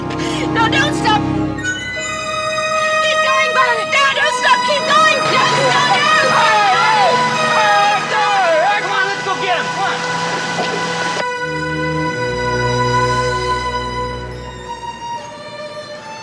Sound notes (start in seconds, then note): 1.4 suspenseful music; 6.9 gang yelling; 12.4 suspenseful music continues